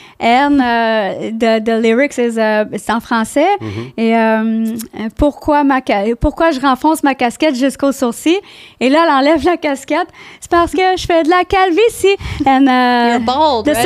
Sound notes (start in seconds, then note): 2.5 in french; 5.3 in french